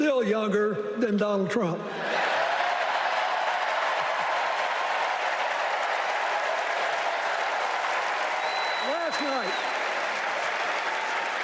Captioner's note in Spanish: Aplausos